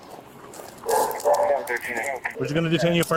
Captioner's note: radio chatter